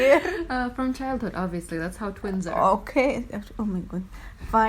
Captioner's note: laughs